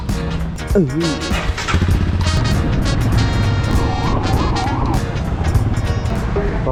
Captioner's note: bike engine revs